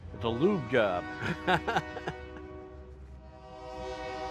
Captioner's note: train horn